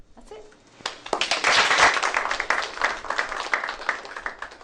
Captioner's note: applause